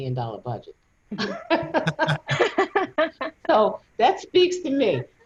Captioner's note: laughing